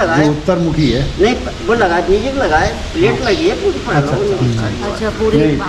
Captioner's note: adamant